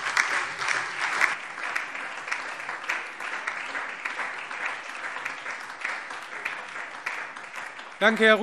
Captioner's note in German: Beifall SPD, Freie Demokraten und DIE LINKE